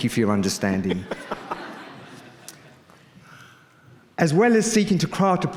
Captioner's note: audience laughing